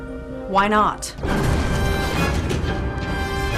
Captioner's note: explosion